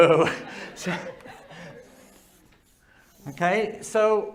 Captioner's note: laughter